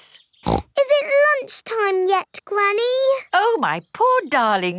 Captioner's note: snorts